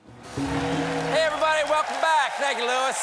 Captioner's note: applause